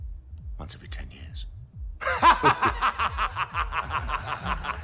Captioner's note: laughing